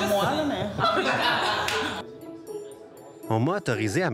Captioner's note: laughs